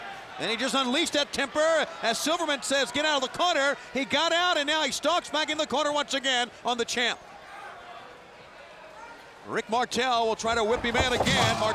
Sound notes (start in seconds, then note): 7.5 fans cheering